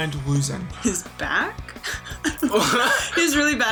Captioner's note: chuckles; laughs